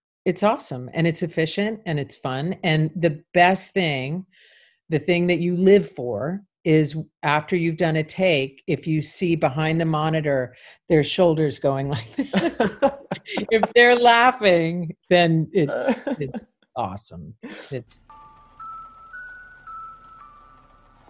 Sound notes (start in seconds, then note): 12.1 laughing; 17.9 gentle piano music